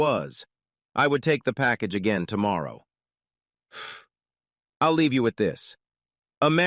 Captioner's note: exhales